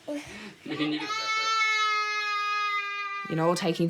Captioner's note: shouts